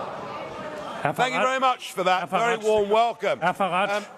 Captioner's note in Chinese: 喧鬧聲